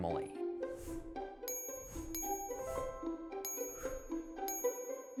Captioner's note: bell dinging